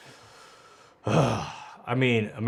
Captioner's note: exhales